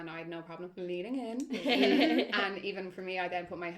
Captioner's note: chuckles